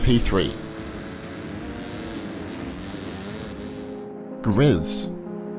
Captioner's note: dirt bikes revving